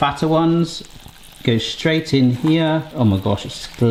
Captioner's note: pan bubbling